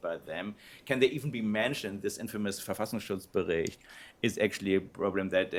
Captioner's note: non-english speech